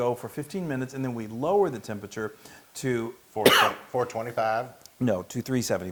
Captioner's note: cough